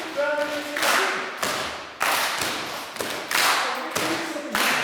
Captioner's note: claps